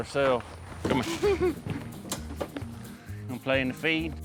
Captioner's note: giggling